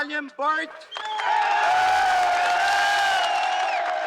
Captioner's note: crowd cheering